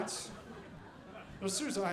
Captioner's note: audience laughing